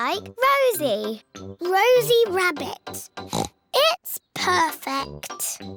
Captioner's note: oinks